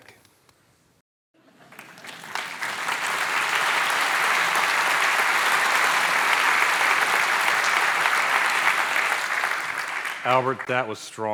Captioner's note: applause